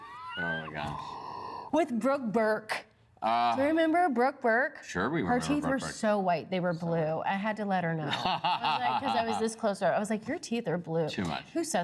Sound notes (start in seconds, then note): 8.1 laughs